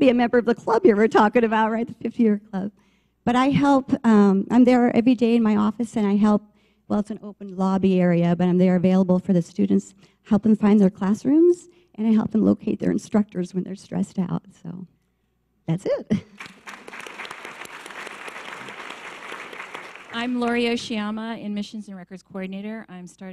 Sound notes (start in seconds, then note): 16.3 audience applause